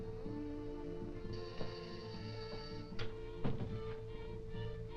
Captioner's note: doorbell buzzing